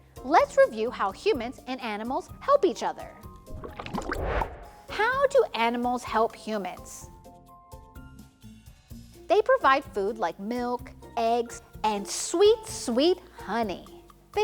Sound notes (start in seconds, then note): 3.4 water burbling; 3.4 transition whooshes; 7.5 playful upbeat music continues